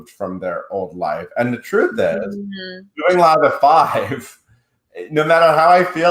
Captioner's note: chuckles